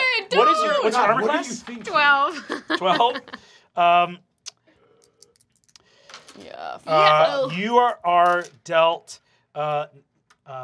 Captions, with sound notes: - What's your armor class? - God, what're you thinking? - 12. - 12? (dice clacking) You are dealt,